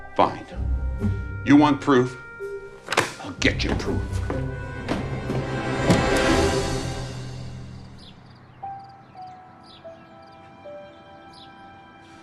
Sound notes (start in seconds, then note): 4.6 suspenseful music; 6.7 birds chirping; 8.7 peaceful piano music